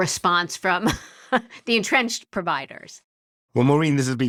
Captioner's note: laugh